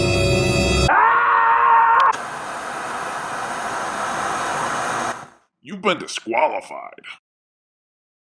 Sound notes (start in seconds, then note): 0.8 screaming; 2.1 TV buzzing